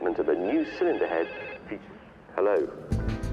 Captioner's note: phone rings